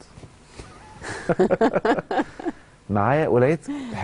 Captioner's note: laughter!